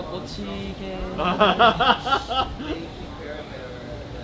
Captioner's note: laughing